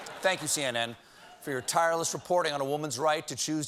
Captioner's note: laughter